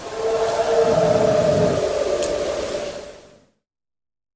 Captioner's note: animal howling